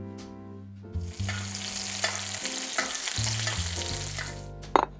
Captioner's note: sizzling sound